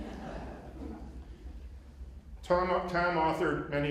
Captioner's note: laughter